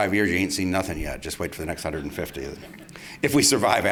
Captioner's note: laughter